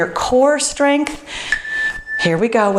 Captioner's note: timer beeps